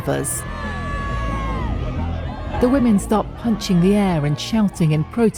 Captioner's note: shouting